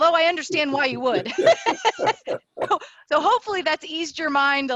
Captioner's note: laughter